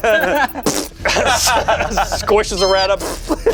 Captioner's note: group laughs; makes splat noise